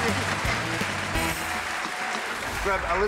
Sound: crowd applauding

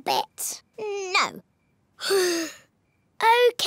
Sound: sighs

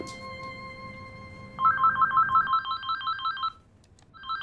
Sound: phone ringing

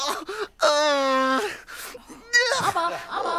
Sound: whines

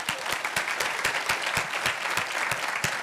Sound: applause

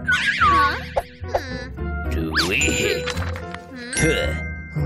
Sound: whistles

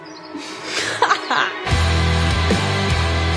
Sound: laughing

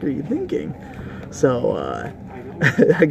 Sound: laughs

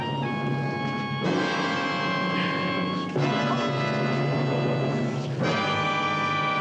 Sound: dramatic music; gasping

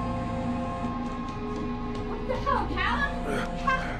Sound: phone buzzing

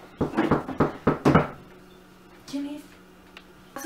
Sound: knocking at door

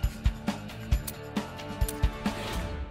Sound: trigger locking

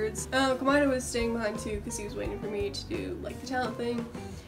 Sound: none

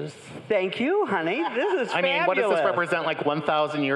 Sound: crowd laughing

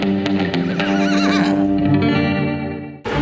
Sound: horse neighing; dramatic tune

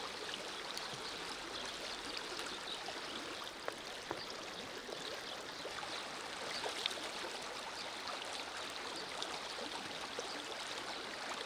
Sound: sound of the river

